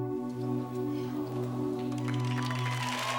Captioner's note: audience cheers and applauds; audience aws